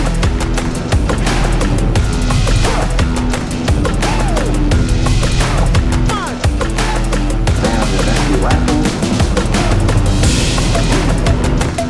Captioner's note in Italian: Applauso